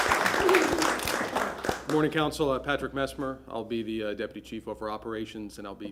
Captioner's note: applause